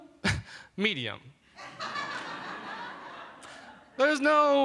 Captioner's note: laughter